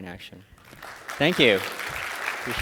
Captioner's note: applause